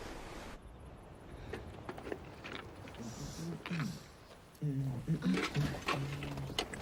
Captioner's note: clattering; man humming